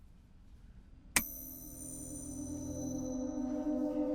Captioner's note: light clicks